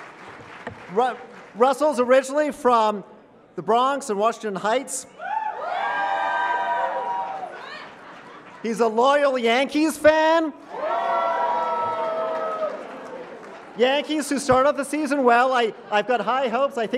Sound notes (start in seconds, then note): 0.0 applause; 5.2 cheering; 10.6 cheering